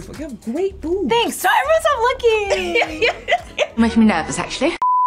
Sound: laughs

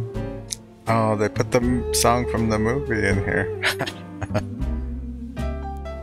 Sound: chuckling

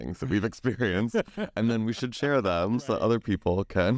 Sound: laughs

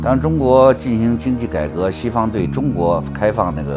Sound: speaks in Chinese

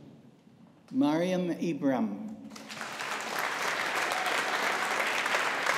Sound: audience applauding

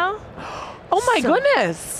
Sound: gasps

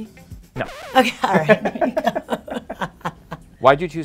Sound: both laughing

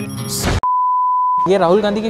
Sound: beep

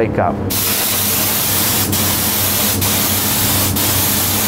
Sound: air spraying loudly

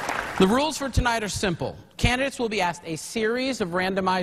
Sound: applause

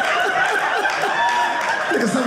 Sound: audience laughing

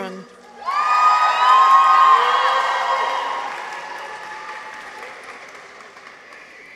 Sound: people cheer; audience applauds

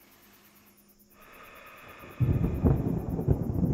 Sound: heavy breathing; thunder cracking

